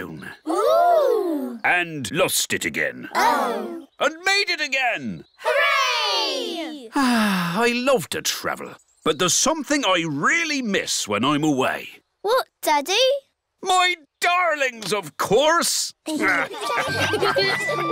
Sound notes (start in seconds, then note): 6.9 sighs; 16.2 all laughing; 17.6 captain and danny dog bark